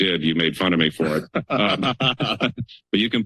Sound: laughter

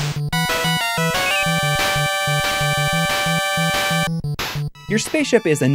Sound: game audio

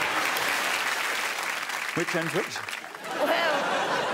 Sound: laughing

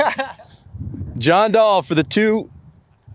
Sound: laughing

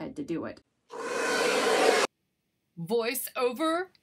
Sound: hairdryer blowing

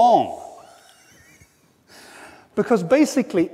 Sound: laughs

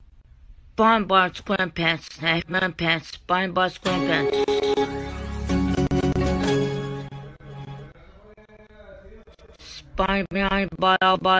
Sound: beeping

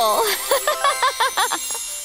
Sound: laughing

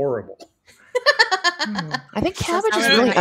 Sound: laughing

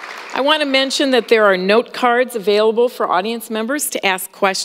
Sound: applause

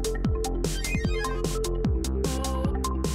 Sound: digital blipping

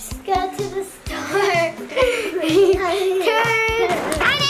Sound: giggling

